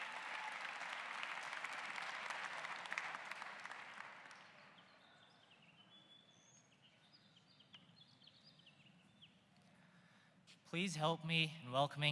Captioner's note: applause